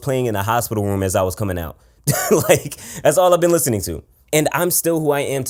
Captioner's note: laughs